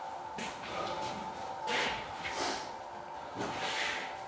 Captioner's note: heavy breathing